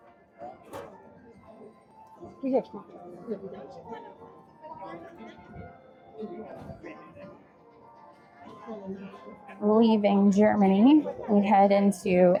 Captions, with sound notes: Wait, is this actually? (crowd chattering)